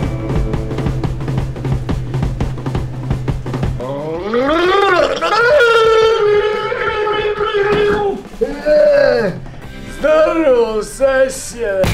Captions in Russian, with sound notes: *звуки булькания воды во рту человека* Здорова, сосед!